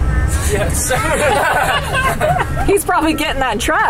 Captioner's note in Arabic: يضحك الجميع